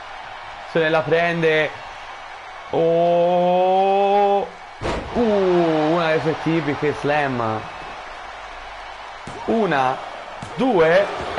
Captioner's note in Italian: Applauso